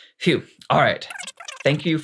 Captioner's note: very fast speech